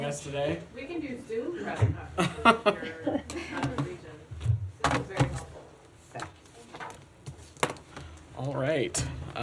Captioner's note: laughter